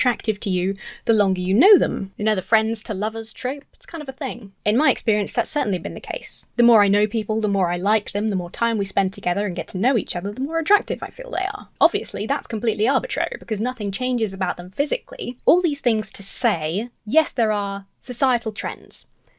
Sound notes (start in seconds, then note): none